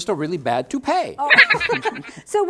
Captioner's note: silly giggle!